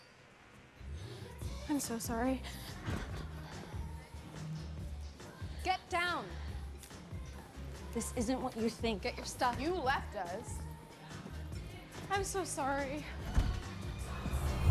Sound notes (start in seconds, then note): 2.4 gasping